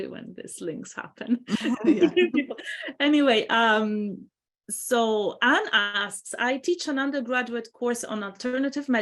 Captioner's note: laughs